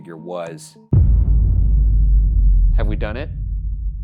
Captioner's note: dramatic whooshing